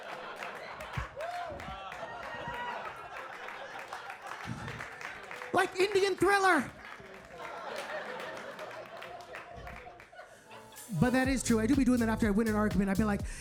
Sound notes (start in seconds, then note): 0.0 audience laughing; 1.5 audience laughing; 6.6 audience laughing; 10.5 upbeat music